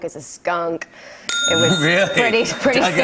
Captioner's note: ding!